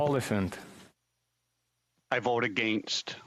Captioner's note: speaking French